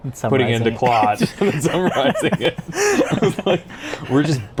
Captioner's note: both laugh